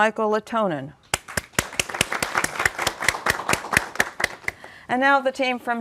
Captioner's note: applause